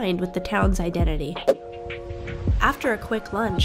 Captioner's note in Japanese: 電子音